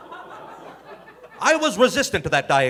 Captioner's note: audience laughing